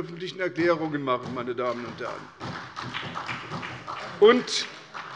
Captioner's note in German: Beifall bei der SPD